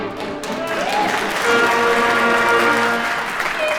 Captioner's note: applause